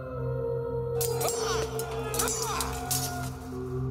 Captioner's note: shouting